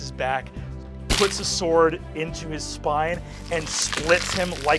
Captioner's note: splattering